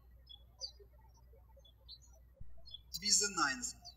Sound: birds chirping

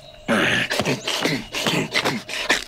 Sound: grunts

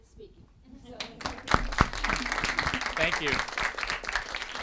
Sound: attendees applauding

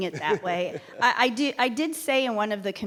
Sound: laughs

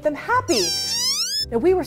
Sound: Instant Pot squeals

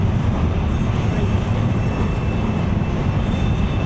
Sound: train brakes squeak

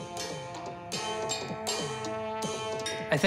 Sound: bell drum dings

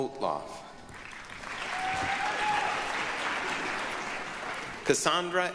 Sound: applause, cheering

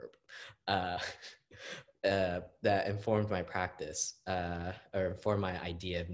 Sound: laughs

